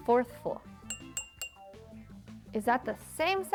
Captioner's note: jar tinking